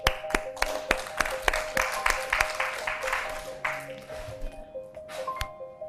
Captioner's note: applause